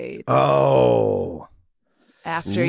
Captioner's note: Rob exclaiming